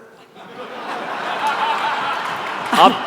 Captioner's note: audience laughter